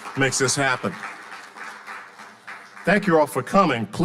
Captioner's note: audience applauding